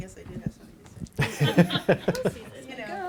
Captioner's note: laughing